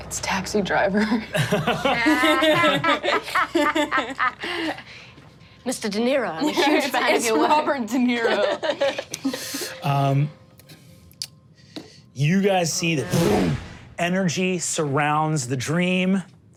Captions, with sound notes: - It's taxi driver. (all laugh) - Mr. Deniro, I'm a huge fun of your- - It's Robert Deniro. (laughs) - Do you guys see that energy surrounds the dream as,